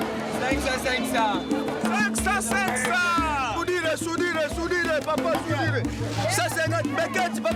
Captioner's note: foreign language